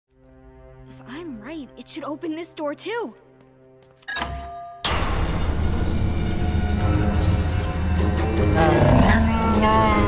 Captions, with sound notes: If I'm right, it should open this door, too. [beeps] [door opening] [bellows]